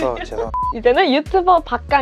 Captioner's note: beep